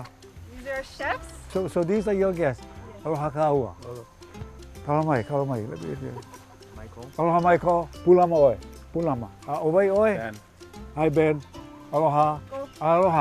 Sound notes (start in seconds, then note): 2.5 speaking Hawaiian; 8.4 speaking Hawaiian